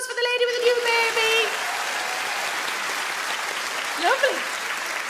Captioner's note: audience clap